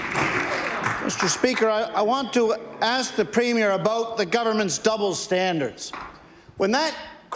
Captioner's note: applause